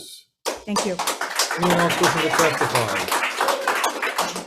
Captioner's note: audience applauds